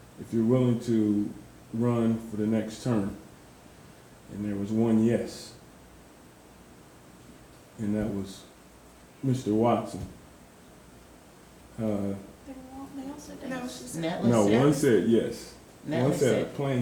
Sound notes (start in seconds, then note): none